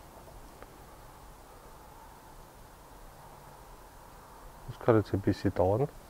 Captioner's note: wind in the background